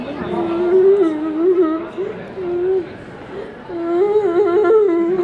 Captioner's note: whimpering